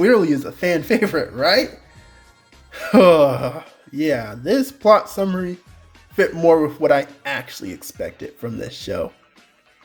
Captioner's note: sigh